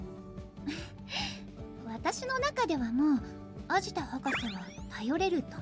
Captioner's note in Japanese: 息をのむ音